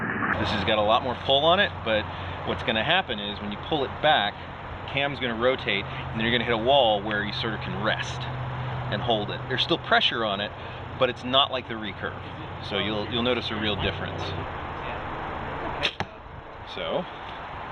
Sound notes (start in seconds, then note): 15.7 arrow thumps